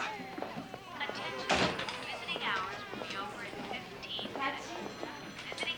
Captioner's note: voice over pa system